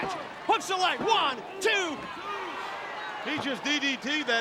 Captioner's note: hands thudding